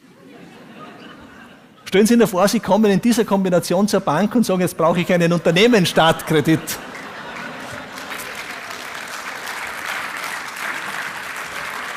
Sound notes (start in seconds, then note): 5.2 audience laughs